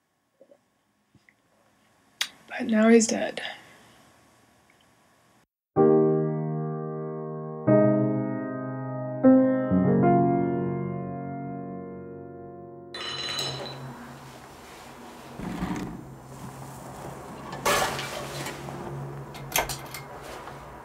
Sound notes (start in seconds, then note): 8.4 loud noises- banging, scraping, clanging